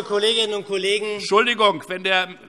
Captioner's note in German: Zurufe von der Regierungsbank